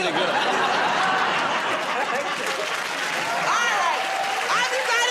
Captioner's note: laughter